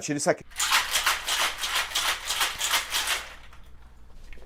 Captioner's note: shaking ice